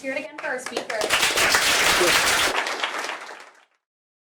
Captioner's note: applause